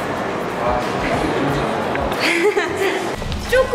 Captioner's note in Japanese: 騒がしい